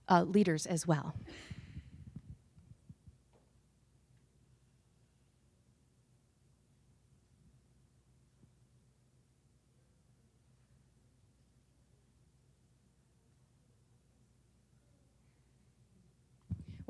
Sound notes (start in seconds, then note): 3.4 silence